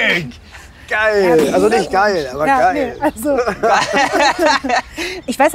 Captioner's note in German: beide lachen